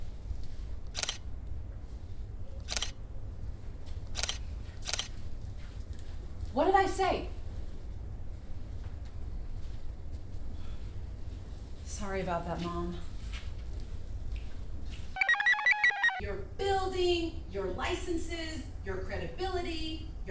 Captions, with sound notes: (shutter snaps) What did I say? Sorry about that, Mom. (computer chirps) Your building, your licenses, your credibility,